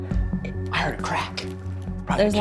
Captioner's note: whispers